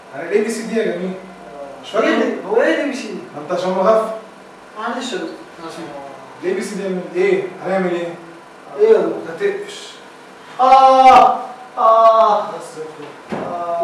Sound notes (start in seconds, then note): 10.5 moaning